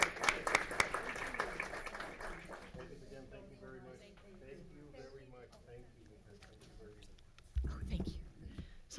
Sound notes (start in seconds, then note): 0.0 audience applauds; 2.9 people chattering